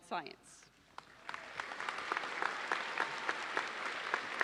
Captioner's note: audience applauds